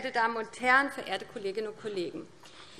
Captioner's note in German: none